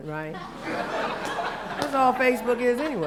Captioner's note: laughter